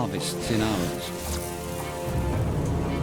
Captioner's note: electric zap